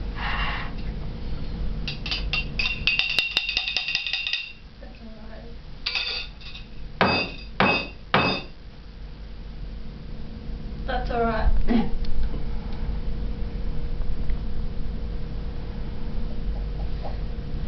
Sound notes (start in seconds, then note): 3.0 banging noises; 7.0 loud banging